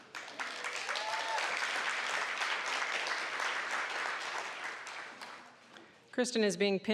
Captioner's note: applause